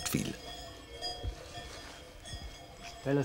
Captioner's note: clinking